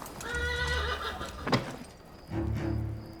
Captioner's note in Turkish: Kapı açılma sesi